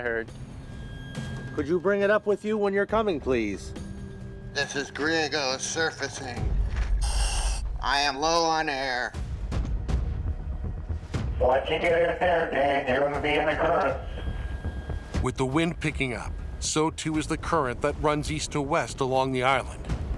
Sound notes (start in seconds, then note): 4.3 speaking over radio; 7.0 regulator hissing; 10.5 speaking over radio